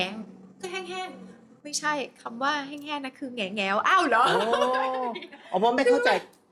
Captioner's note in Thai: เสียงหัวเราะ